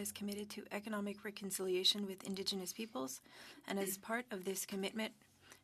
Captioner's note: speaking French